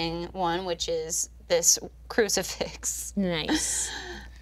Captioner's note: laughing